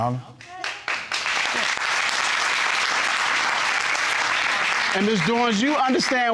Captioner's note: audience clapping